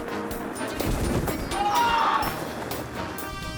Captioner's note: whimsical music; wind fluttering; parachute whips; screams